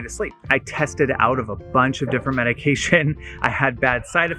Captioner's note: laughing